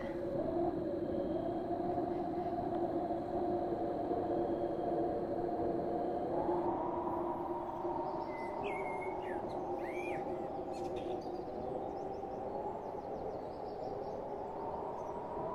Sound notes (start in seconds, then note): 0.3 wind blows loudly; 9.0 morning birds chirping